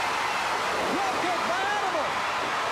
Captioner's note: crowd cheering